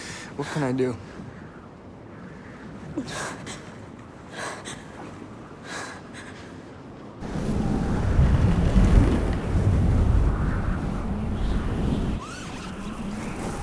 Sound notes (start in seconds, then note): 7.1 wind howling